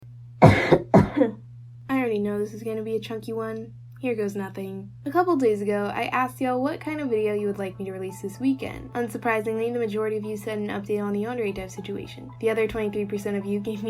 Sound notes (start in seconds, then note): 0.4 cough cough